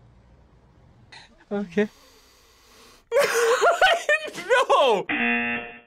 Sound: laughs

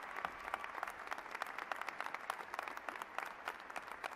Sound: applause

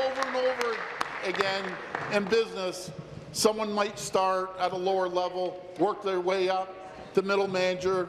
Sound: applause

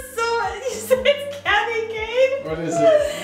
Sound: laughing

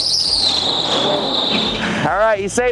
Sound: engine growling

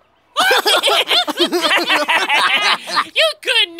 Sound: laughing; all laughing

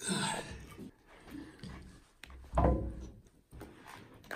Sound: metal creaking

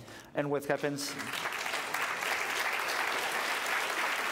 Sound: applause

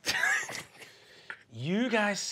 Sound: Fabian snickering

